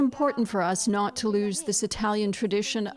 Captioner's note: speaking Foreign Language